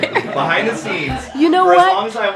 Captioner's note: laughs